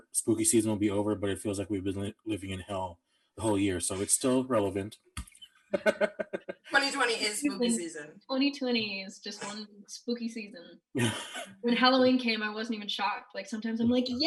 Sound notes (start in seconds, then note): 5.7 laughing